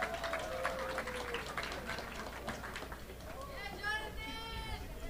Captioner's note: audience applauding